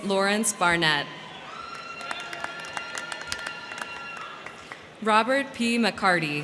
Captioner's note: crowd cheering; crowd clapping